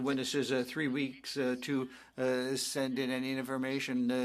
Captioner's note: speaking French